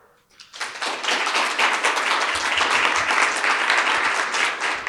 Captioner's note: audience applauds